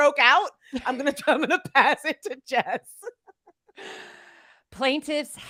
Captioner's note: laughs